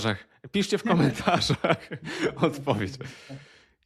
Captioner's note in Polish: śmiech